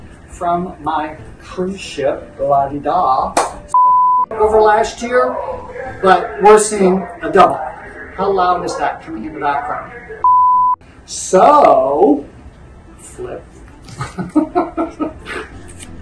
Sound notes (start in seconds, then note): 3.7 beeping sound; 10.0 beeping sound; 13.8 laughs